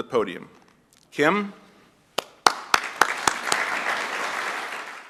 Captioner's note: applause